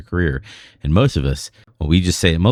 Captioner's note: uh